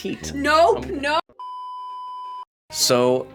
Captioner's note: beeping